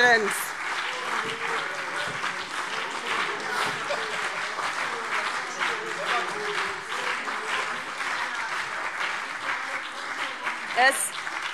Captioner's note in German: Beifall CDU und BÜNDNIS 90/DIE GRÜNEN - Unruhe